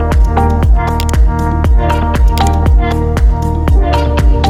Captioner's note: mouse click